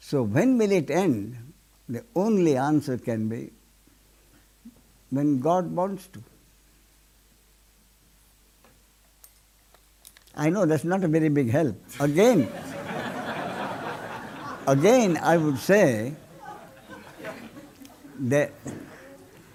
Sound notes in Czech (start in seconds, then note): 12.0 smích